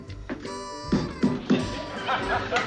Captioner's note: banging